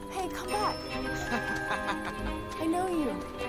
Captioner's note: man laughing